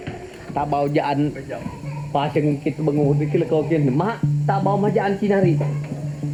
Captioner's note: speaking in foreign language